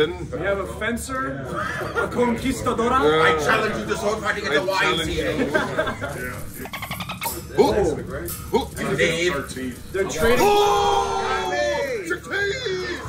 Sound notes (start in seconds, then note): 5.2 laugh